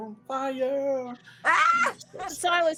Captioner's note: laughs